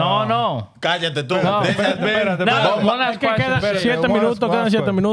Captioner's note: laughing; speaking Spanish